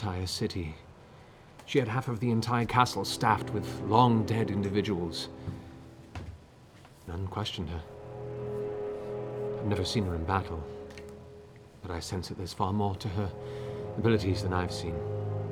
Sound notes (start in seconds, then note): none